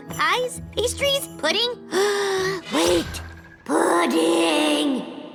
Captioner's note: gasps